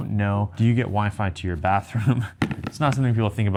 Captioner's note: chuckles